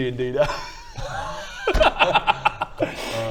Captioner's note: laughs